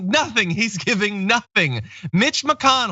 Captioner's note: laugh